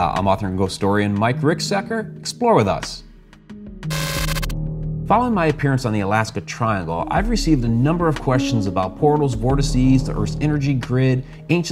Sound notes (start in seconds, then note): 3.9 electricity crackling